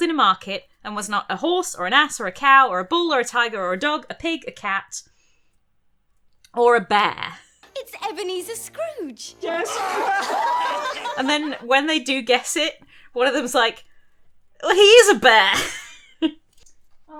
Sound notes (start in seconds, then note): 9.4 laughing